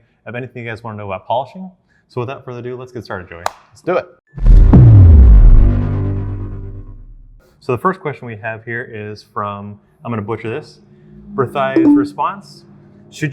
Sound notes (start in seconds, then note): 4.4 dramatic noise